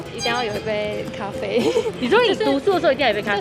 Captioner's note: giggles